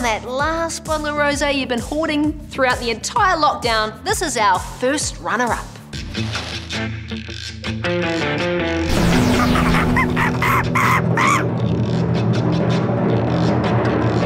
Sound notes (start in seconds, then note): 9.2 monkey screams; 11.7 drum rolls